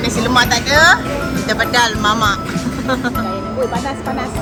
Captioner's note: laugh